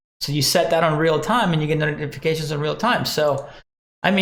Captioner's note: none